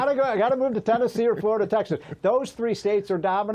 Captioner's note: laughter